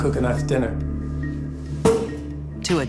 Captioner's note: cork pops